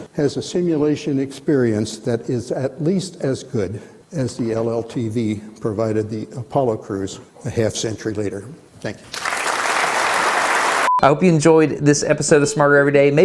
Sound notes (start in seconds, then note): 9.1 audience applauds